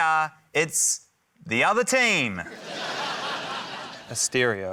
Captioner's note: laughter